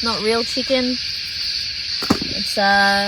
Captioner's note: powder shakes in bottle, then bottle thuds into box